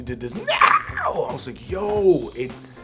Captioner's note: imitating Jennifer